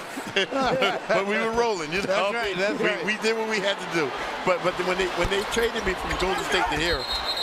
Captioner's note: laughing